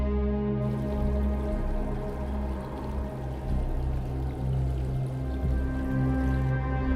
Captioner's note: wind blowing; river babbling